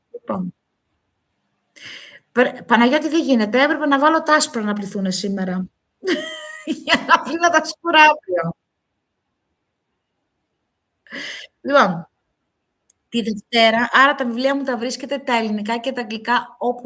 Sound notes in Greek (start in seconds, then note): 6.0 γέλια